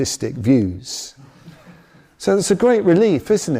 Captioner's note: audience laughs